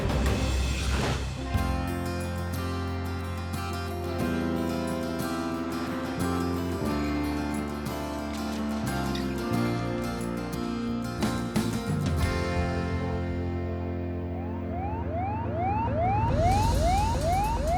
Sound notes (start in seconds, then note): 1.1 acoustic music; 14.3 alarm blaring